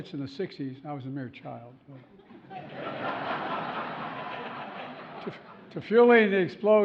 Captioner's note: laughter